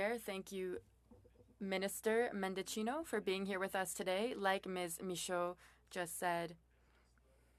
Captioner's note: speaking French